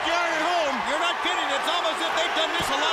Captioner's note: crowd cheering